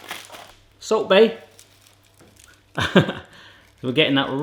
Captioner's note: laughs